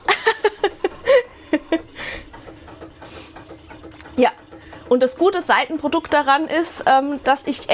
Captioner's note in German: Gelächter; Japst